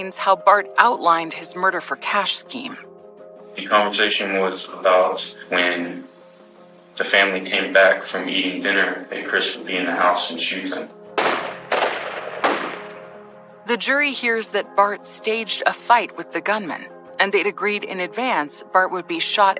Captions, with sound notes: He explains how Bart outlined his murder-for-cash scheme. - The conversation was about when the family came back from eating dinner and Chris would be in the house and shoot them. [gunshots] - The jury hears that Bart staged a fight with the gunman. And they'd agreed in advance Bart would be shot